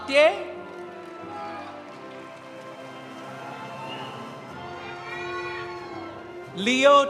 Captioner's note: audience applauding; audience cheering